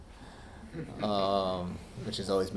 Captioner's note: audience laughing